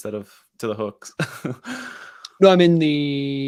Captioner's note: laughs